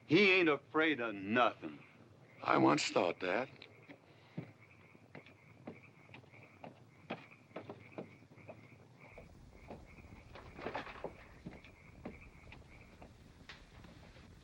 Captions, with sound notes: He ain't afraid of NUTHIN'! - I once thought that. (footsteps up stairs) (door opens)